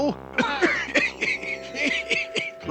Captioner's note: coughs